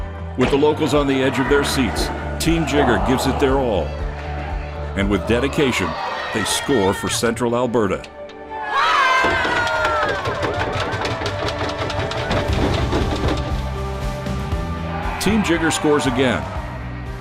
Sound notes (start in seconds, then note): 8.5 cheering